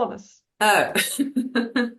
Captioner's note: Rires